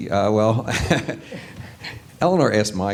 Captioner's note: laughing